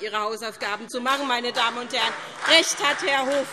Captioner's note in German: Beifall SPD